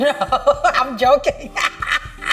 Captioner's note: laughs